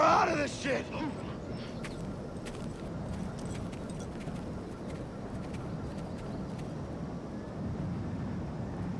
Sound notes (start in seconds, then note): 4.1 wind roars